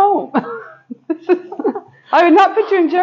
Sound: laughing

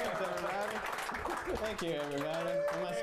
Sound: audience cheering

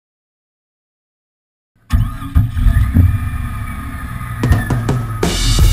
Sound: engine start

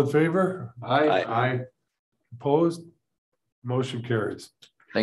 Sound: silence

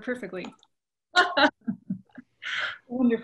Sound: laughs

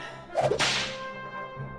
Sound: whip sound effect

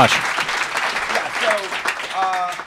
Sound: crowd continues applauding

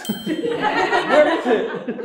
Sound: cast and crew laugh

